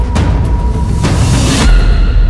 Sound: JENNY shouts

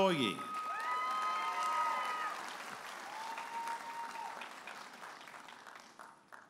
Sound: audience applauding and cheering

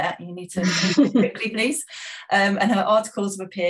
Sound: laughing

